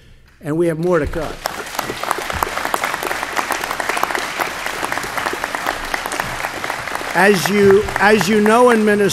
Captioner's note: applause